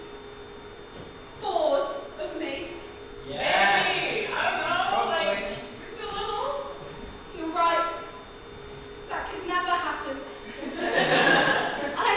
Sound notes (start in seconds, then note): 3.3 audience shouts in agreement